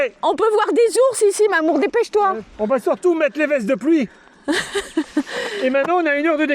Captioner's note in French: rires